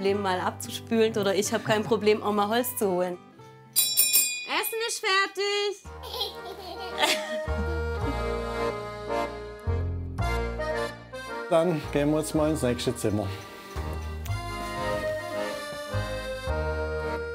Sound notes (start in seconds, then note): 3.7 ringing; 6.0 laughs; 9.2 cozy music; 16.0 cozy music